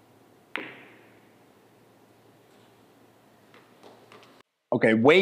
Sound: pool balls colliding

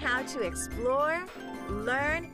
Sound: chiming

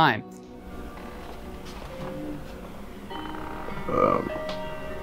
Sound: door opens

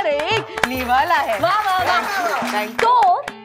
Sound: applauding

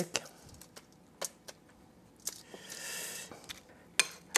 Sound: tapping

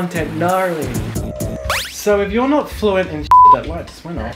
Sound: beep

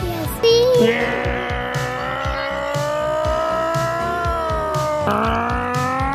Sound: imitating motor

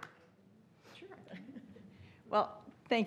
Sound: laughs

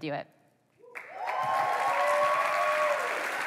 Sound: applause

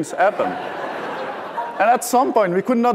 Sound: laughter

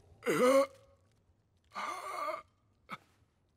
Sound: groaning

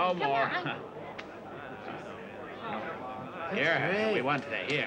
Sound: people chattering

